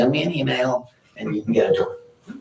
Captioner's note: audience laughing